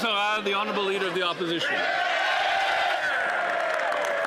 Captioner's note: applause